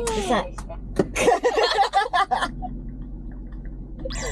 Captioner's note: laughs